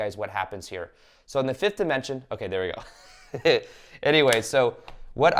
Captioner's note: chuckles